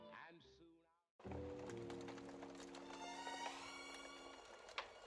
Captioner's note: fireplace crackling